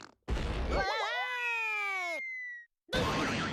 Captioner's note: Daffy screaming